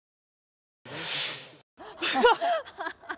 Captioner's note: takes a sharp breath